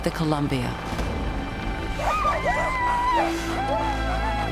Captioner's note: dogs yelping